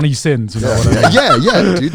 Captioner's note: laughing